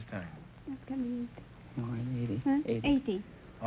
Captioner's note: whispering